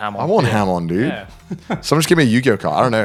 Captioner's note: laughs